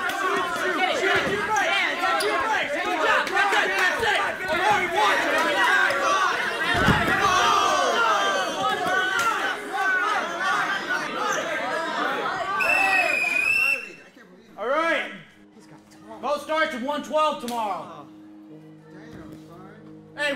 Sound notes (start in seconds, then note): 4.1 all yelling; 12.5 whistle blows